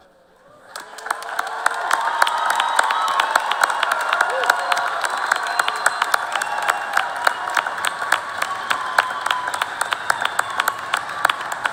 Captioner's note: cheers and applause